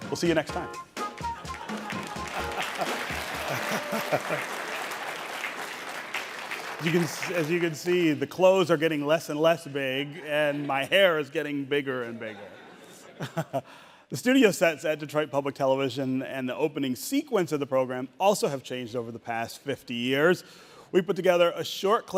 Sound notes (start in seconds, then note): 2.8 jazzy music; 4.0 audience applauding; 4.0 laughing